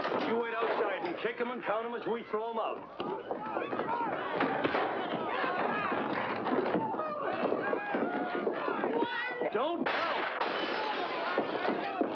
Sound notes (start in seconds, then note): 2.2 commotion; 9.8 window smashing